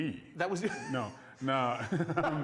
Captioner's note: laughs